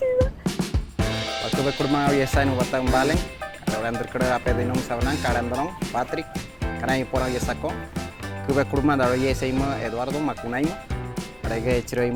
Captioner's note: speaking Pemón